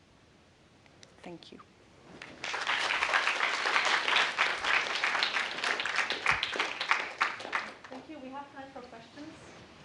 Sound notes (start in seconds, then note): 2.2 applause